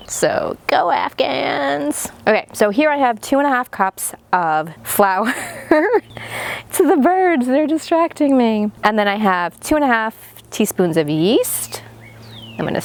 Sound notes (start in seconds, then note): 5.2 laughing